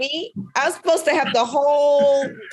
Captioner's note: laughing